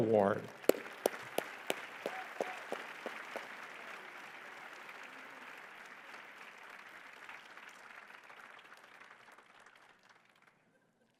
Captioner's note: applause